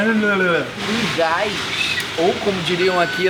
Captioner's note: makes disgusted sound